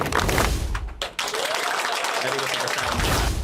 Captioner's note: round of applause; cheering and applause